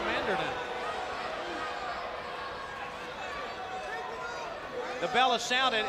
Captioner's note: crowd chatter